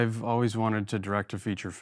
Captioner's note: none